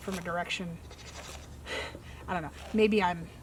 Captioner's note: chuckles